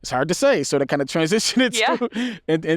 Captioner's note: laughs